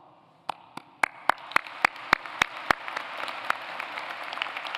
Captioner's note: applause